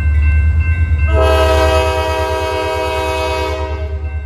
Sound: train horn blaring

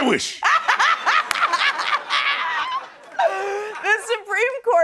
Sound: laughing; cackling

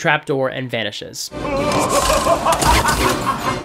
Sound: Mola Ram laughs

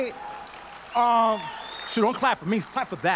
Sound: audience claps

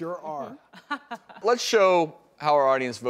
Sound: laughter

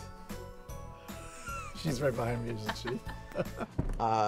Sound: laughter; laughing

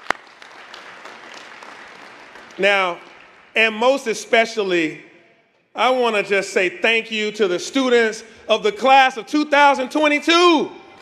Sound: applause

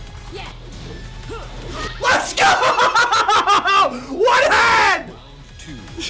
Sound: laugh

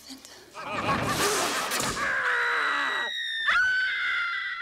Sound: screaming

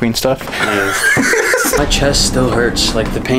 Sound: laughs

